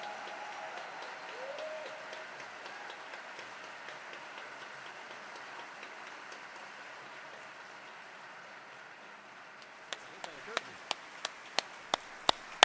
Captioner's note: applause